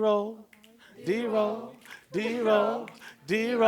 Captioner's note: students join, snaps